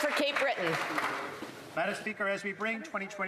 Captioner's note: some Applause